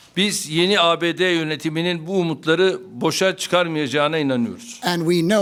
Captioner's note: speaking Turkish